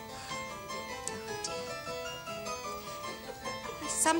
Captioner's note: sighs